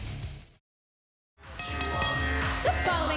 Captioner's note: bell ringing